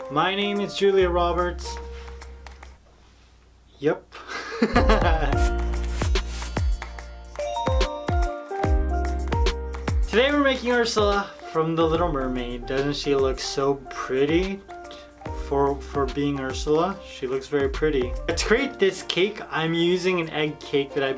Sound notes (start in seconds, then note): 4.3 laughs; 5.2 happy contemporary music